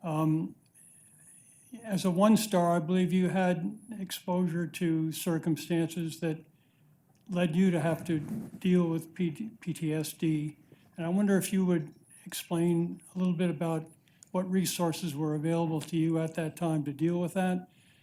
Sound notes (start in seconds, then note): none